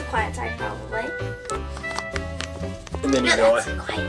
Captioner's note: popping sounds